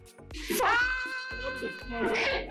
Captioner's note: continues screaming; screams in excitement